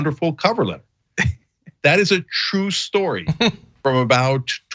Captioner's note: laugh